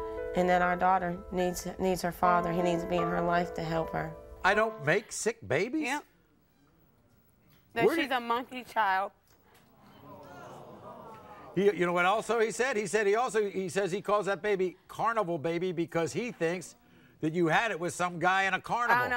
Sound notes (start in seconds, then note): 10.0 audience groans